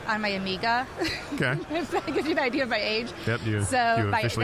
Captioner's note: chuckling